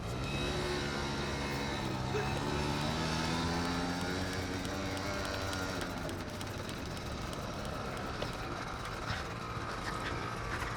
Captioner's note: motorcycle running